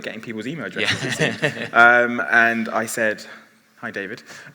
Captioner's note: laughs